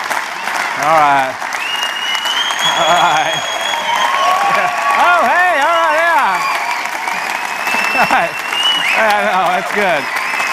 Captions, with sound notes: All right. (audience continues to cheer) All right. All right. Yeah. All right yeah. (audience continues to cheer) All right, it's good.